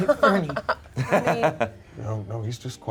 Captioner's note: laughs